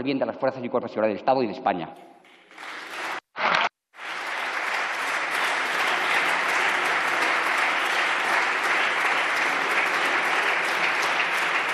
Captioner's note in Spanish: Aplausos